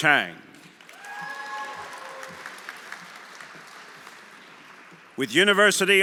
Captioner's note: audience applauding; audience cheering